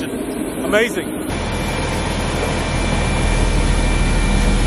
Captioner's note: machine buzzing